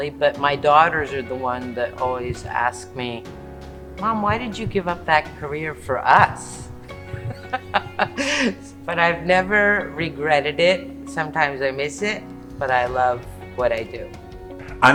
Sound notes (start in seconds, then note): 7.4 laughing